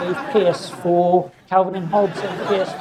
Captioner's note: audience laughs